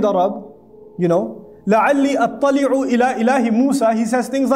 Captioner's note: Arabic